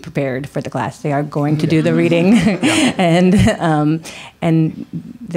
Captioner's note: laughs